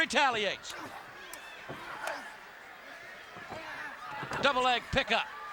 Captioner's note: audience chattering